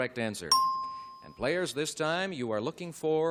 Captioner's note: ding